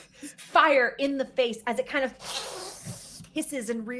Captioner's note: mimicking panic; hissing